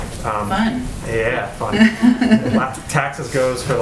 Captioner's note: laughter